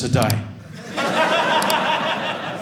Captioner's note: audience laughing